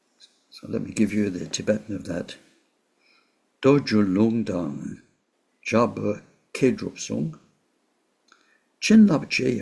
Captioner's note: tibetan